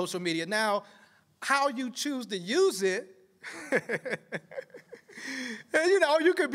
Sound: laughter

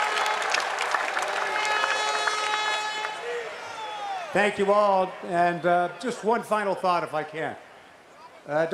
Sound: cheers and applause

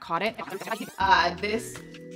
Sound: tape whirring

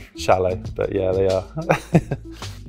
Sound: laughs

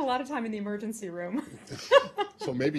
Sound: laughter

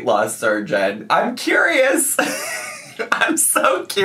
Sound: laughs

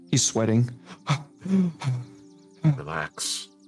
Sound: heavy breathing

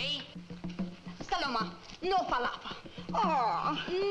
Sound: speaks in foreign language

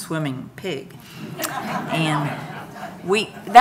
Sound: audience laughing

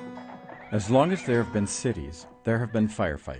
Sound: voiceover

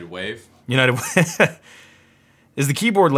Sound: laughs

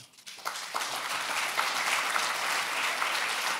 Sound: applause

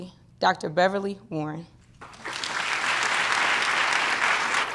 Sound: applause

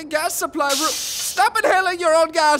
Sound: inhaling

